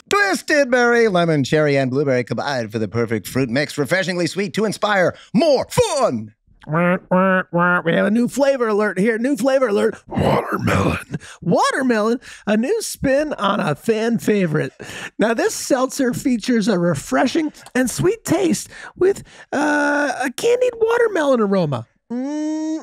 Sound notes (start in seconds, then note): 6.7 quacking